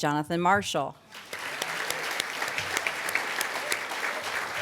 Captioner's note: applause